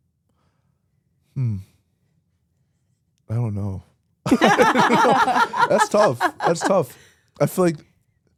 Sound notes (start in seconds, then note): 4.3 laughs